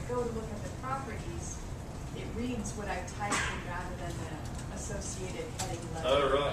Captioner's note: cough